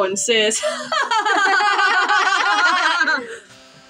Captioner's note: both Fake Laugh